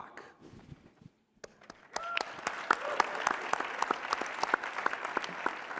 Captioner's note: applause